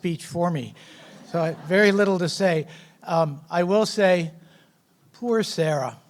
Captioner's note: laughs